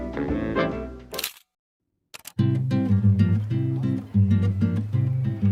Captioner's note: camera clicking; light airy music